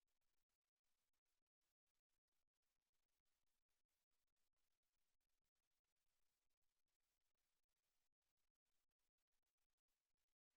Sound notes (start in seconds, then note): none